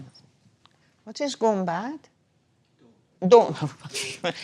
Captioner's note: speaking foreign language